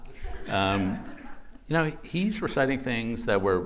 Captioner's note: laughter